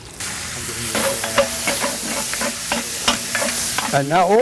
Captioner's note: meat sizzling